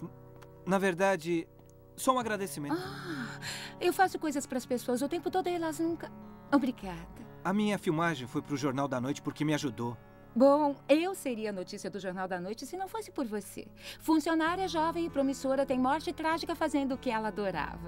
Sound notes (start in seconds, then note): none